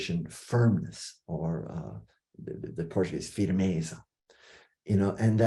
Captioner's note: non-english speech